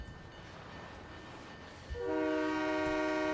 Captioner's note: train whistle